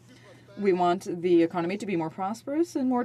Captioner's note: speaking French